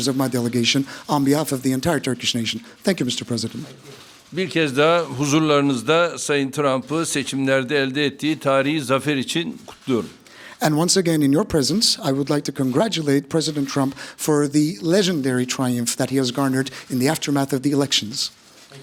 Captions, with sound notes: of my delegation. On behalf of the entire Turkish nation, thank you, Mr. President. (Speaking Turkish) And once again, in your presence, I would like to congratulate President Trump for the legendary triumph that he has garnered in the aftermath of the elections.